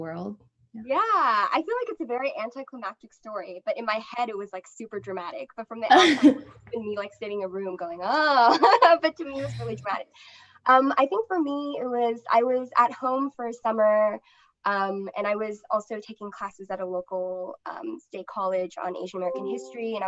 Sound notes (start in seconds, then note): 4.2 laughter